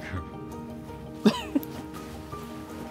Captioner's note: laughs